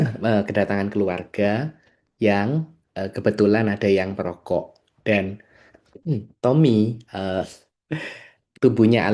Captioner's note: berdehem